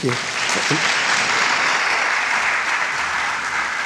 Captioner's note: crowd applauding